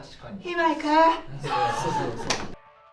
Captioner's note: laughs